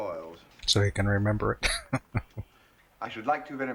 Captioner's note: chuckling